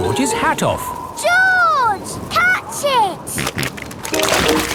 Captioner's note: snorting